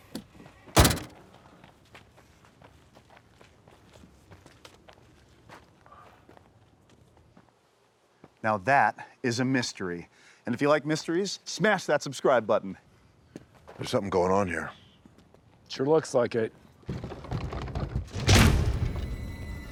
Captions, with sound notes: (door slams) - Now that is a mystery. And if you like mysteries, smash that subscribe button. There's something going on here. - It sure looks like it. (dramatic music)